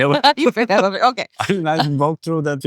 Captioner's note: laughing